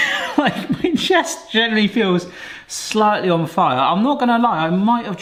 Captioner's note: chuckles